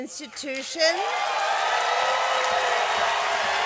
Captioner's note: cheering and applause